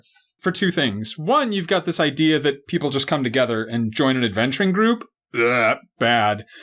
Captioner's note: gags